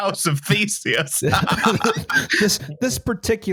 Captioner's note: laughter